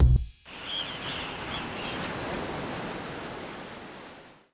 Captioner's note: waves flowing; seabirds crying